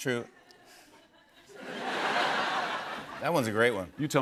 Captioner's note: laughter